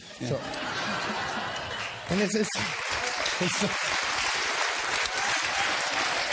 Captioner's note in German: Klatschen und Lachen im Publikum